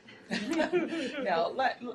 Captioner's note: laughter